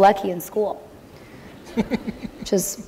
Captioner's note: laughter